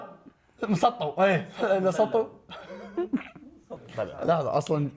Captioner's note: giggles